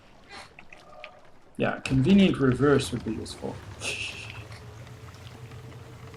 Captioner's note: laughs softly